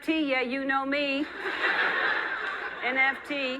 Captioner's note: audience laughing